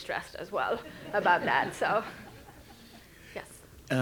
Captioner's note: audience chuckles